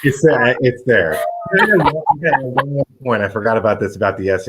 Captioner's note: laughter